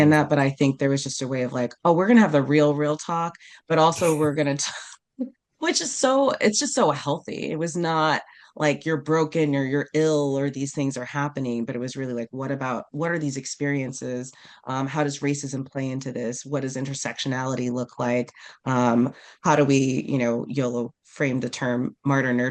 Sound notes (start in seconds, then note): 4.0 laughs